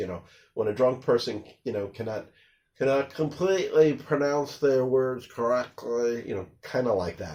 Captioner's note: with a slurring accent